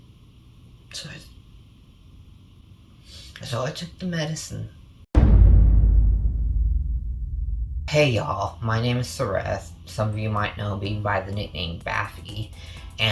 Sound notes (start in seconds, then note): 2.8 sniffles; 5.1 dramatic boom